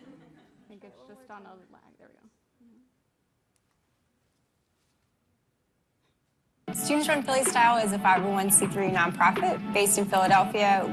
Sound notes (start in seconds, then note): 0.0 laughter